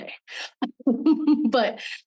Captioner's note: laughing warmly